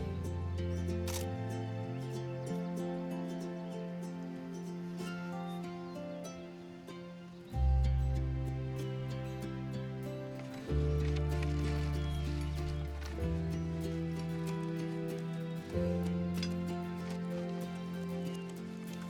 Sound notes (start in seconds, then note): 1.0 camera clicking; 5.1 gentle music